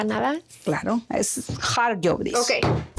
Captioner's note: speaking Spanish